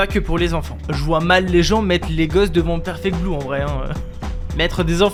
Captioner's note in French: Rire